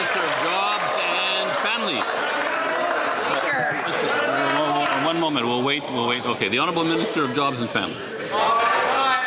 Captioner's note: some Applause